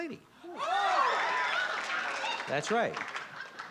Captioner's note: cheering